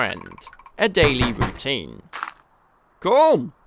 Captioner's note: knocking